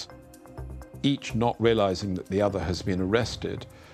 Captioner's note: none